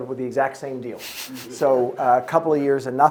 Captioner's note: audience chuckling